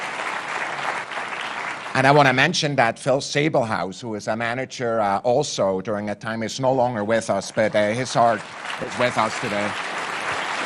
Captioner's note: applause